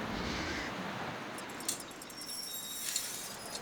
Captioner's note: rooster hisses; metal creaks; wind blowing